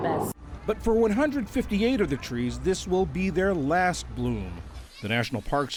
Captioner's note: voice-over